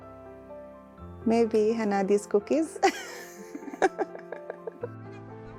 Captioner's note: laughs